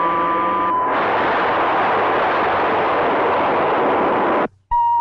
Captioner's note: missile blasting